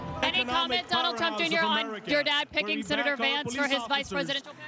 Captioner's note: cheering